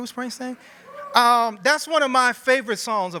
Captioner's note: cheering